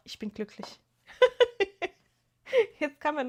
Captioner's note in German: gelächter